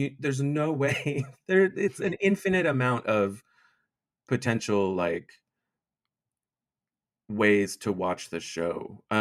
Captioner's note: chuckles